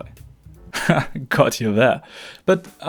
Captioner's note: haha